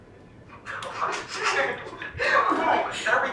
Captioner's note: laughter